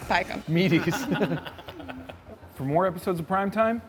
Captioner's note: laughs